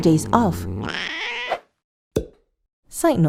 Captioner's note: grunts